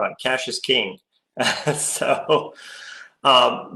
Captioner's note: laughs